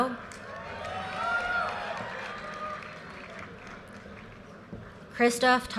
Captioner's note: audience cheers and applause